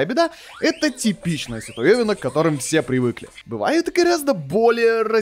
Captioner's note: random fire alarm